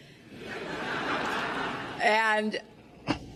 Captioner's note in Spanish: risas